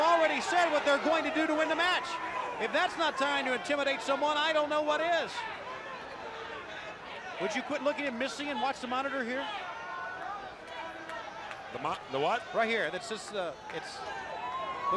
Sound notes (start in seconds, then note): 6.4 crowd chatter; 12.9 crowd chatter